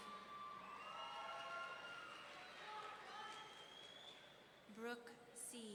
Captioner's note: audience cheering